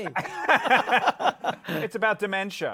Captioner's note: laughter